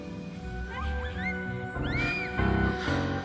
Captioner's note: squeals of delight